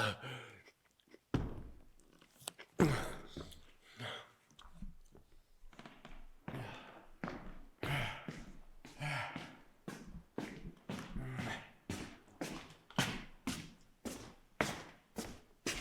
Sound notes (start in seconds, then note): 0.0 Jacob gasps; 2.8 Jacob groans; 7.7 Jacob panting